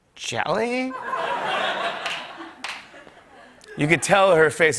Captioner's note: laughter